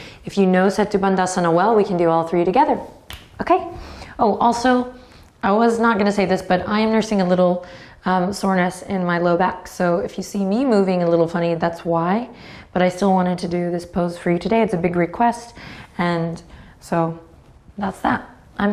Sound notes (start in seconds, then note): 3.0 snaps